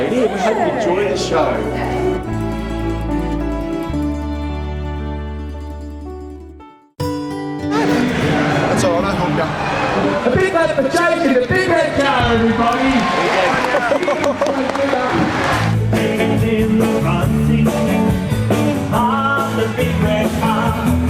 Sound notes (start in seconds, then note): 12.8 applause